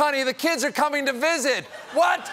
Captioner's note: laughter